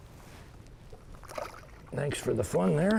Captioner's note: water splashing